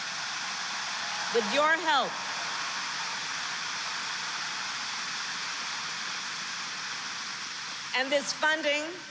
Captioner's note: applause